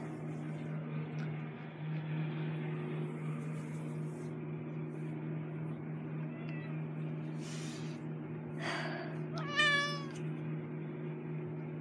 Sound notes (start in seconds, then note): 6.2 cat meows; 9.3 cat meows loudly